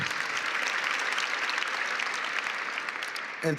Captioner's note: applause